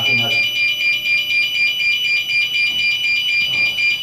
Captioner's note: beeping